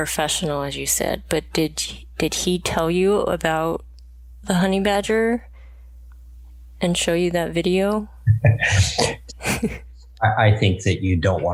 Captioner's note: laughs